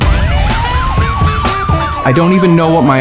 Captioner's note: siren wailing